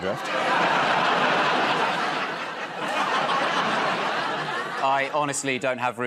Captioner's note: laughter